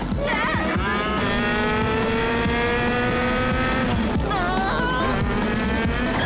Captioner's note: cows mooing